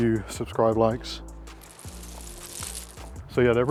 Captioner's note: raining sound